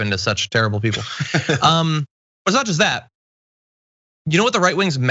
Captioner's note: laugh